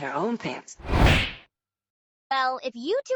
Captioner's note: smack